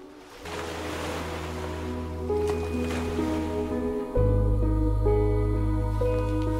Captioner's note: waves crashing; dramatic music